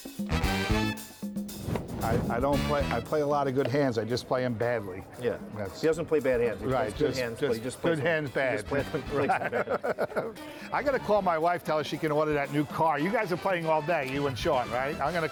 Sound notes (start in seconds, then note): 8.6 laughing